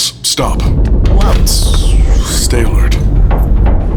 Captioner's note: Mechanical powering down sounds, Sophrosyne stumbling and being caught